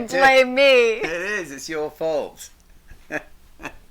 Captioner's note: laughs